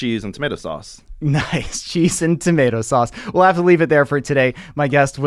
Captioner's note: chuckles